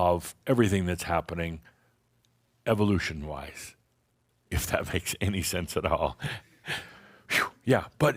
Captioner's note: chuckling